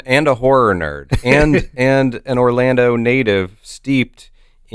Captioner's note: chuckles